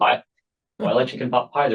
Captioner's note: laughs